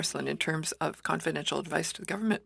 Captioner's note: speaking french